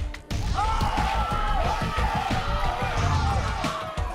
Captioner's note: crowd cheers